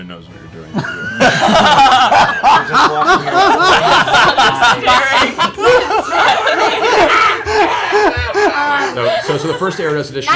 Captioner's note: laughter